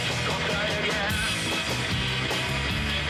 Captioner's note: none